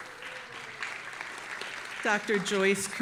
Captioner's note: audience applauding